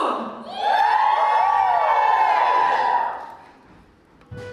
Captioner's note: audience cheer